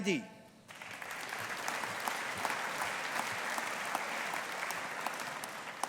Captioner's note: audience applauding